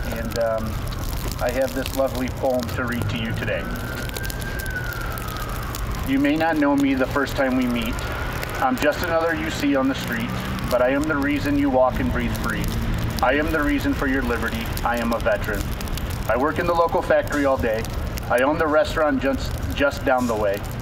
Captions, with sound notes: and I have this lovely poem to read to you today. (distant sirens blaring) "You may not know me the first time we meet. "I'm just another you see on the street "but I am the reason you walk and breathe free. "I am the reason for your liberty. "I am a veteran. "I work in the local factory all day, "I own the restaurant just down the way,